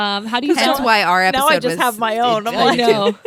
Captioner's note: laughs